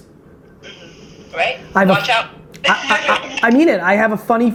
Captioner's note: laughs